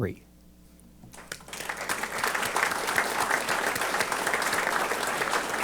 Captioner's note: applause